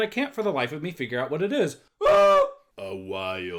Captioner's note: screams